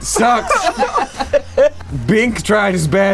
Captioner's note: group laughing